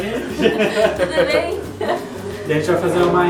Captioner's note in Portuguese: Risadas